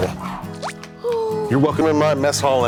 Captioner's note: Blueberry coos